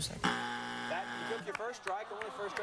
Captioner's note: buzzer